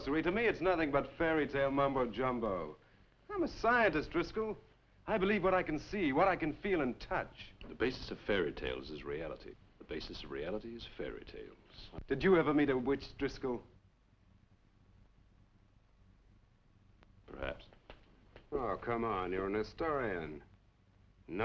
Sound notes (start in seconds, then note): none